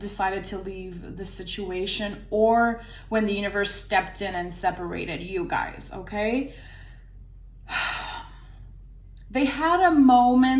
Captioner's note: deep exhale